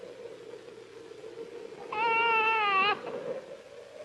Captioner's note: crying